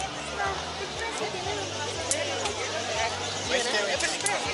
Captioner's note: speaking Spanish